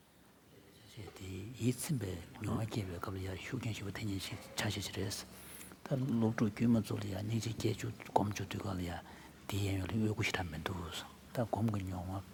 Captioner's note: foreign Language